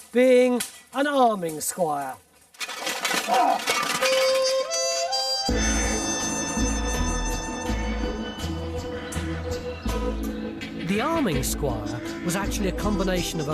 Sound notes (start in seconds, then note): 3.2 men groaning; 3.5 bright music